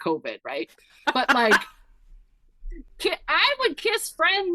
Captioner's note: laughing